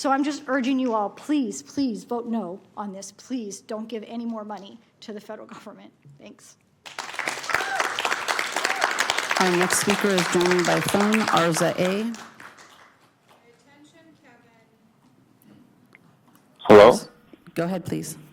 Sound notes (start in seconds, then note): 10.6 applause; 11.3 cheering/Applause